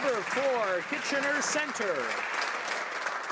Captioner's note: some Applause